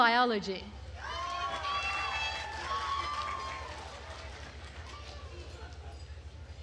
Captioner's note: attendees cheering and applauding